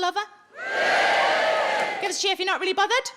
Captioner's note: audience cheers